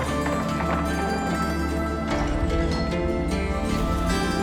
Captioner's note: door clanks